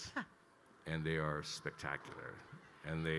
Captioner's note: laughing